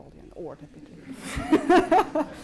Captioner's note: laughter